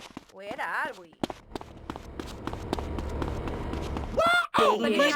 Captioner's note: yelling